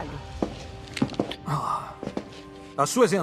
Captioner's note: sighs